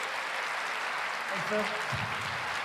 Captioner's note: applause